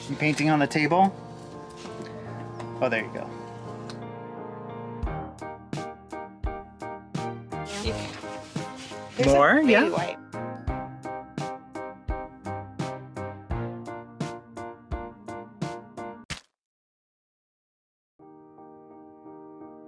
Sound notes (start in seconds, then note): 4.3 joyful music; 16.2 splashing